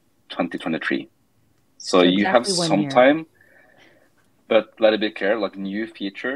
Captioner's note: speaking faintly